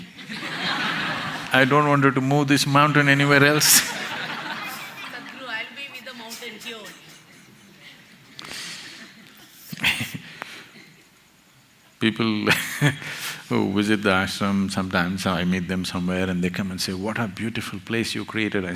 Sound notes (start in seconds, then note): 0.1 laughter; 3.8 laughter; 12.5 laughs